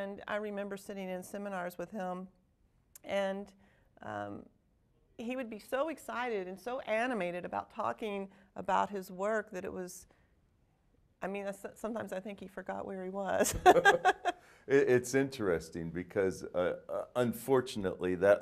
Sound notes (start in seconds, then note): 13.4 both laughing